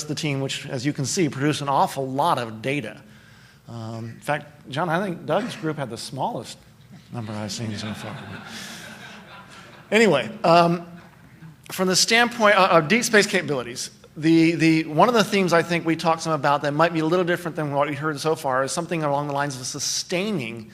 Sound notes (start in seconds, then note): 7.2 laughter